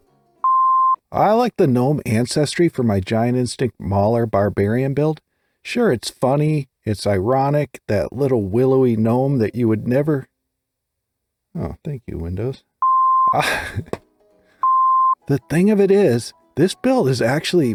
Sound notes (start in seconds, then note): 0.4 beep; 12.8 beep; 12.8 computer sound; 13.3 laugh